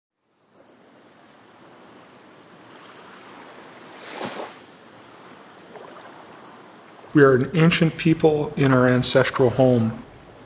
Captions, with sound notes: (waves lapping) - We're an ancient people in our ancestral home.